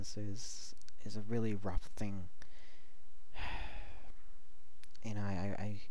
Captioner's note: big Sigh